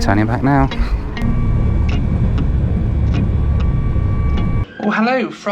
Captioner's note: plane engine revving